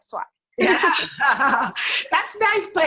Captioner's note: both laugh